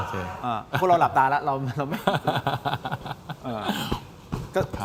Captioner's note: laughter